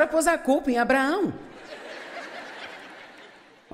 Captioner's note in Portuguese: público rindo